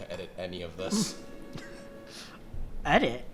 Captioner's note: laughs